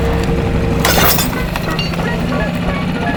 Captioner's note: motor boat whirring; chain snapping; playful instrumental music